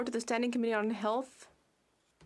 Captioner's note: speaking French